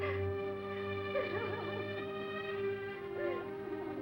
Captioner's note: crying